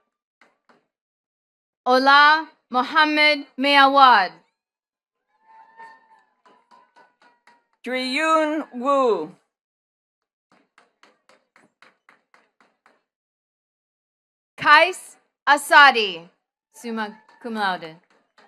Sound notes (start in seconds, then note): 5.8 attendees cheering and clapping; 10.5 attendees clapping